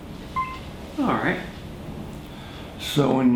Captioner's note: camera beeps